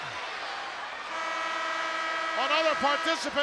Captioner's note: buzzer blares